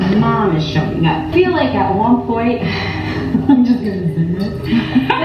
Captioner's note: laughs; laughing